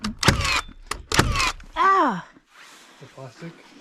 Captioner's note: in pain